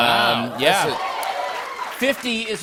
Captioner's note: cheers and applause